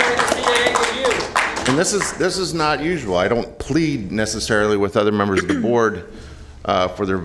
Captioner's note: applause